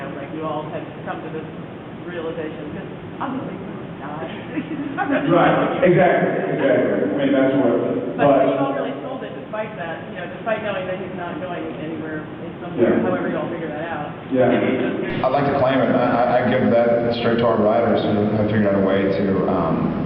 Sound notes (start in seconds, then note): 4.0 laughs